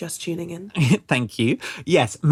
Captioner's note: laughs